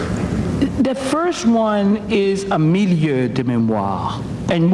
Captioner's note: speaking foreign language